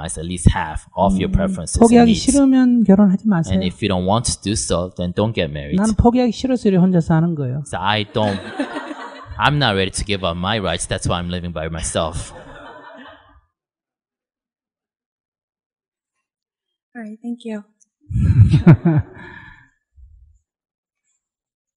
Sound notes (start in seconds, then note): 12.2 audience/Questioner Laugher